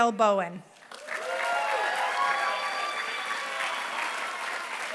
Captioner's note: applause